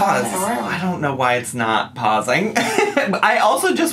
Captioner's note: laughs